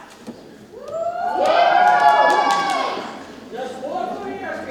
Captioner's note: audience cheers